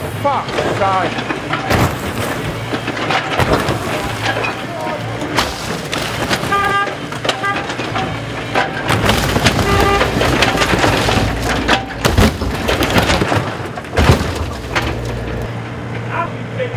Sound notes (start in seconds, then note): 0.2 crash; 6.1 smashing and crunching noises; 6.2 carn horn starts beeping